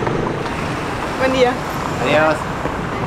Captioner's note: in Spanish